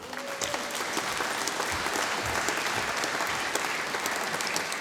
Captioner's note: audience applauding